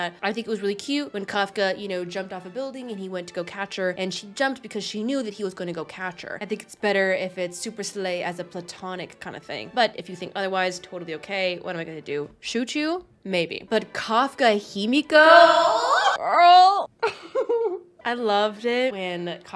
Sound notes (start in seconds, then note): 15.3 screeches and giggles